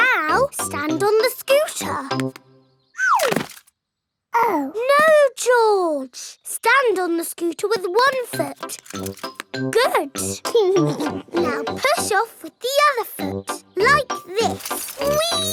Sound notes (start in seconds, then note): 10.8 chuckles